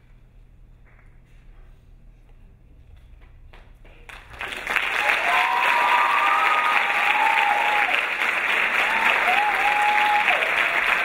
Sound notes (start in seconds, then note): 4.1 crowd applauding; 4.4 crowd cheering